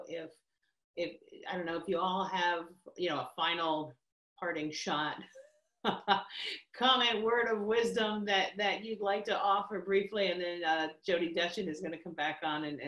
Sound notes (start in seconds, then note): 5.7 laughs